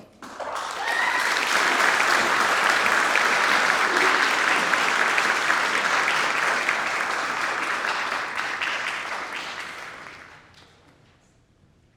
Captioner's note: audience applauding